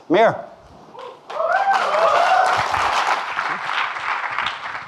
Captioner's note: audience clapping